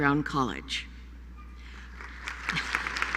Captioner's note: applause